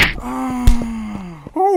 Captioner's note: groan